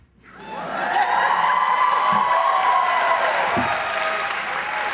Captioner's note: cheering